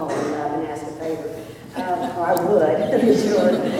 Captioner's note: laughter